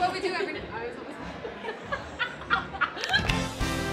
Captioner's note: laughter